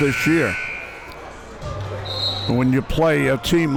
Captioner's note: buzzer rings